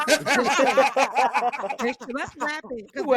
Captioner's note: laughter